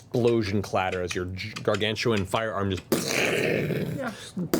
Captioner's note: gunshot noises